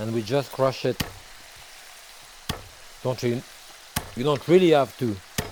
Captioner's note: knife pounding